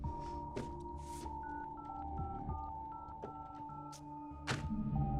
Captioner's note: dial pad beeping